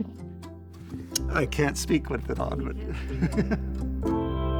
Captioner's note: gentle music; laughs; gentle music